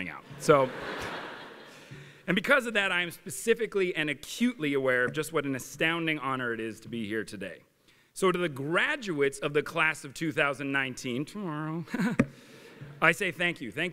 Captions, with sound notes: So... [LAUGHTER] and because of that, I am specifically and acutely aware of just what an astounding honor it is to be here today. So to the graduates of the class of 2019—tomorrow-- I say thank you.